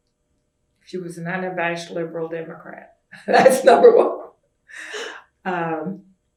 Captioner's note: laughs